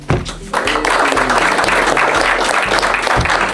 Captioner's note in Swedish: Applåder